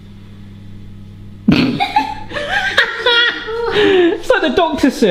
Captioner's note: laughing